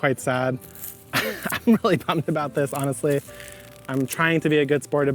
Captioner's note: laughing